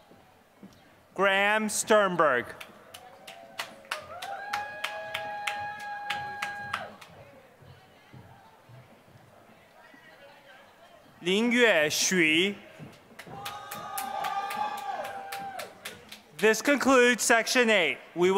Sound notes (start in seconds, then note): 0.0 applause; 13.1 applause